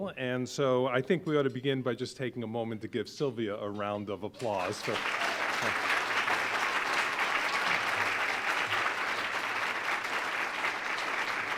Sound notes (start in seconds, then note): 4.4 audience clapping